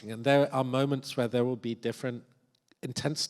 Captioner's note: none